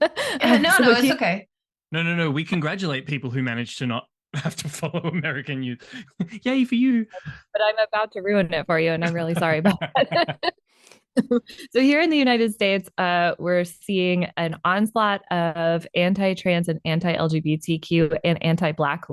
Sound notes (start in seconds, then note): 9.0 laughter